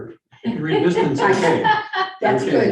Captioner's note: laughing